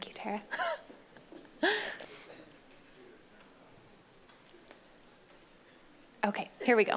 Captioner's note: laughs